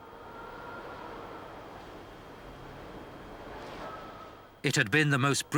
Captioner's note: wind howling